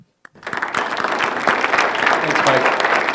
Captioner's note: applause